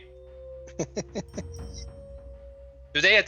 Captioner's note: sniggering